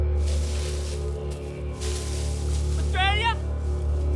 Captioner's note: leaves rustling